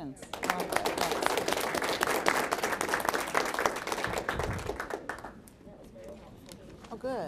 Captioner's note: applause